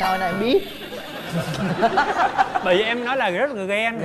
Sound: laughs

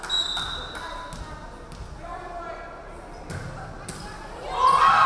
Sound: referee whistling

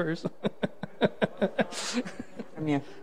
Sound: laughs

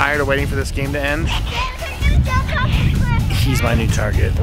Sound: chatter

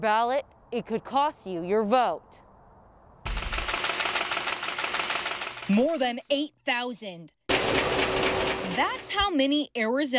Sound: nat pop of ballots being counted

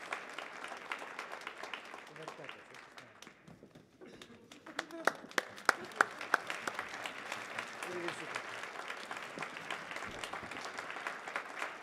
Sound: applause

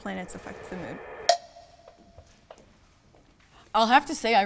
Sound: suspenseful ambient music; rustling footsteps

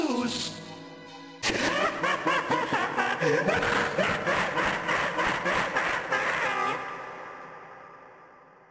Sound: Jevil Laughs Maniacally

